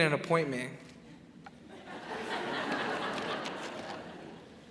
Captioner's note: crowd laughs